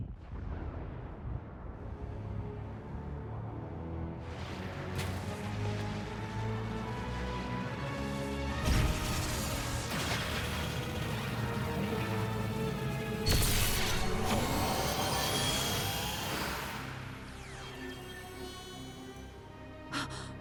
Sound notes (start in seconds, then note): 8.6 explosion; 14.0 zapping